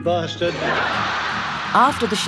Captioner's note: audience laughs